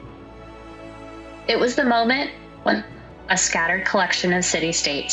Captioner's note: reflective tone